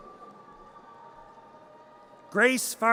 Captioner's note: audience cheers